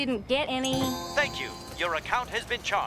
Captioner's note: automated Voice